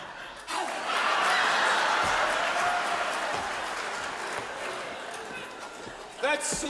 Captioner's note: audience laughs; audience cheers